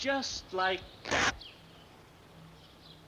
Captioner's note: fabric rips